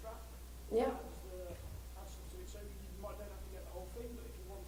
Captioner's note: voiceover